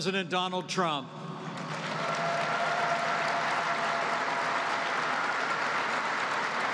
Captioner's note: applause